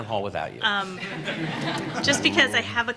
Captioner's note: laughter